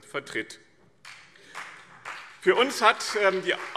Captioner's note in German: Beifall BÜNDNIS 90/DIE GRÜNEN und CDU